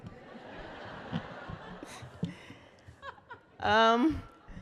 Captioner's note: laughter